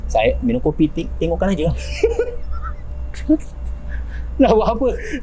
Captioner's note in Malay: ketawa